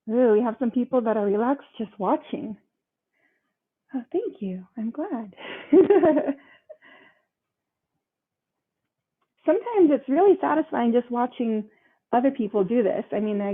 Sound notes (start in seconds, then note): 5.5 laughs